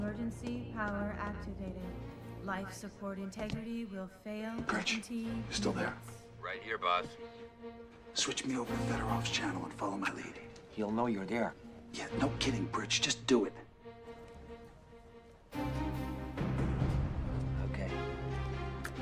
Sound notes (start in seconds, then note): none